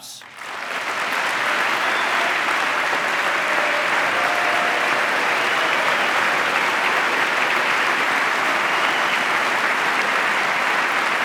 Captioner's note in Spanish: aplauso